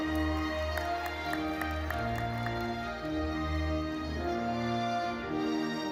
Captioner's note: audience cheering and applauding